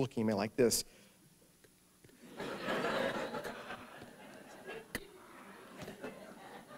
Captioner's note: laughter